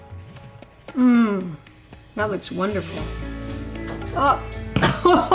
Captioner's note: coughs